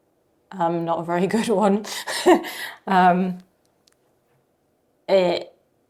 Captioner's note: chuckling